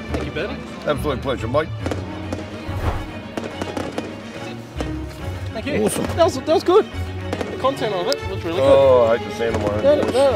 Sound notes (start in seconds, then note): 2.3 fireworks exploding loudly